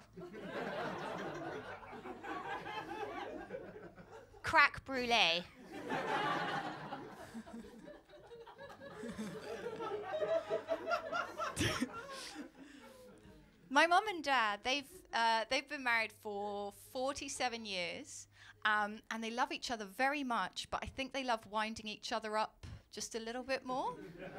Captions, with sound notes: [LAUGHTER] 'Crack brulée.’ [LAUGHTER] My mum and dad, they’ve been married for 47 years. They love each other very much, but I think they love winding each other up just a little bit more.